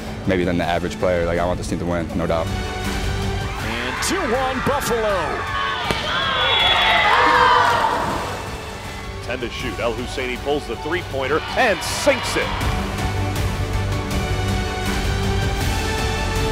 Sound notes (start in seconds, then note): 2.6 uplifting music continues; 5.6 athletes shouting; 12.7 uplifting music continues